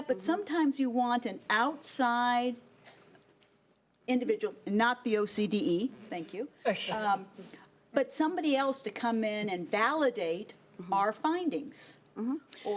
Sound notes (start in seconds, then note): none